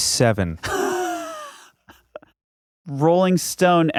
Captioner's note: laughing